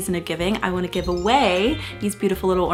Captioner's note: chimes ring